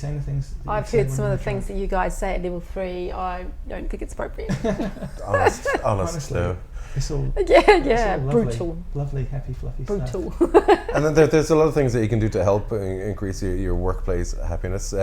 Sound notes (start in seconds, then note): 4.4 laughter; 10.1 laughs